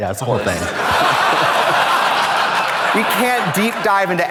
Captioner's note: audience laughs